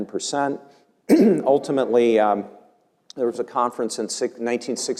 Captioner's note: cough